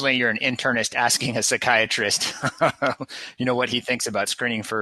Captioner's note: laughs